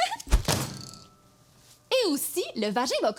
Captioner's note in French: rire; bruit du livre qui frappe la table